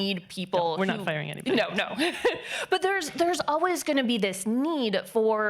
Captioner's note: laughing